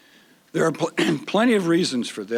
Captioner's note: clearing throat